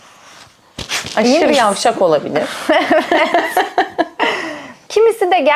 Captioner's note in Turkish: kahkaha